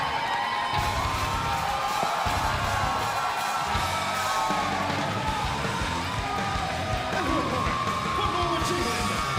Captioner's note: crowd cheering